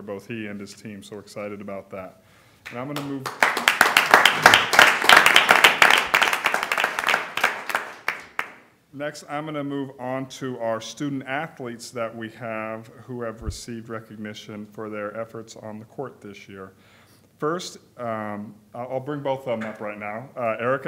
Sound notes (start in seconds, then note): 6.7 applause